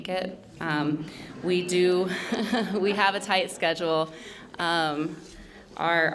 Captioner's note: laughs